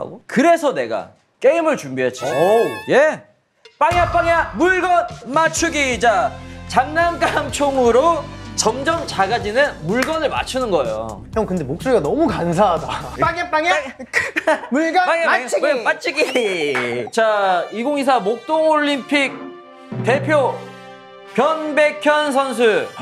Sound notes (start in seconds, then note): 15.0 laughing